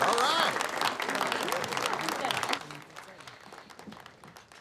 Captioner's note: students clapping